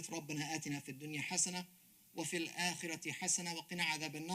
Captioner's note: speaks Arabic